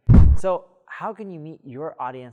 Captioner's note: air whooshing